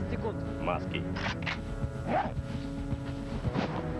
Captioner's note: weapon reloading sound